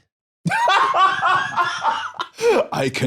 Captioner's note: laughs